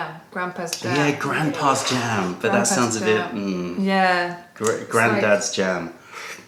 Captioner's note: sips tea